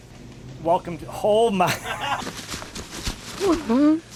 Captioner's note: laughs